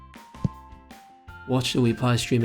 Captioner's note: tap sound